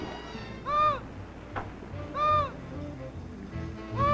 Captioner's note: seabird calling; light jazzy music